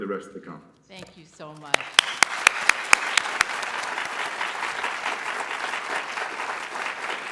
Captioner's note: applause